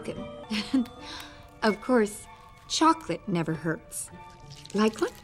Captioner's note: laughs